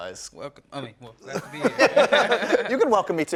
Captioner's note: laughing